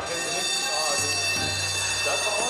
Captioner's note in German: Klingeln